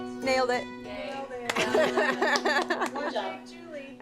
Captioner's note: laughs